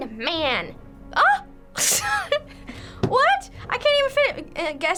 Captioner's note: laughs